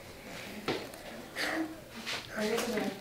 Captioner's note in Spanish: suspira